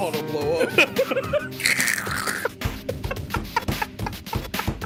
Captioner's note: laughing